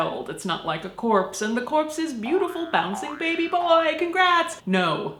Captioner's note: spring noise